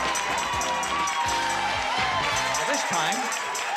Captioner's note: applause and cheering